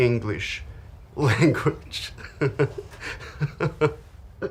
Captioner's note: chuckles